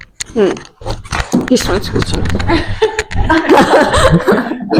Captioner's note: audience laughter